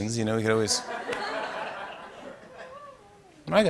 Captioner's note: laughter